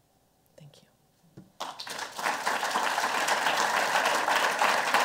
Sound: applause

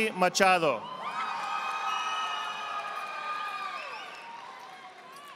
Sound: audience applauding

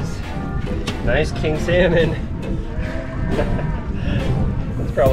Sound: chuckles

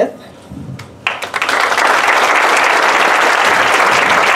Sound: applause

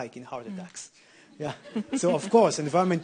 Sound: audience laughing

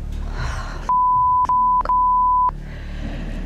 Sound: sighs

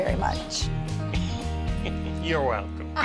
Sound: laughs

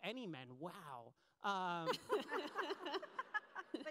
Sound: laughs

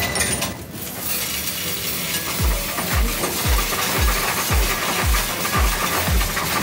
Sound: coins rattling; upbeat music

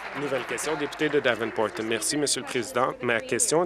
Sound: applause

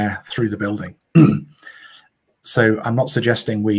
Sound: clears throat

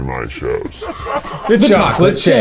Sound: laughing

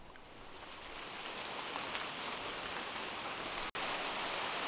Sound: wind whistling

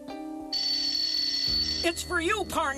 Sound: ring

